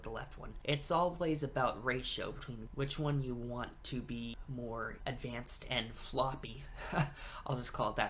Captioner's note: chuckles